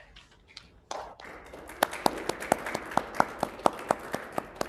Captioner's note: audience claps